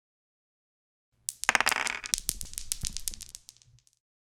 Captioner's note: dice rolling